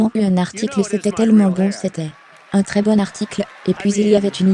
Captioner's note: audience applauding